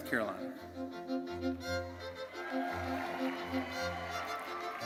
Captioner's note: crowd cheering